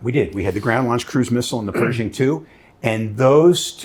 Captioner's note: clearing throat